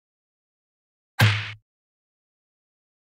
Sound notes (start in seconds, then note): 1.2 sound of impact